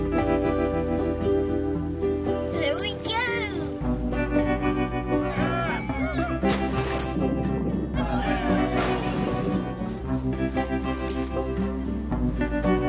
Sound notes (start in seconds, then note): 5.3 cheering and splashes